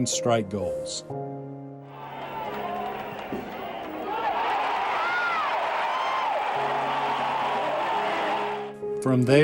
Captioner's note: applause